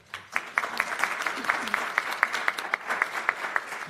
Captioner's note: applause